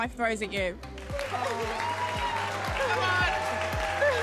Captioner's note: cheering & applause